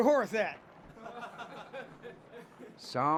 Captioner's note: gang sniggering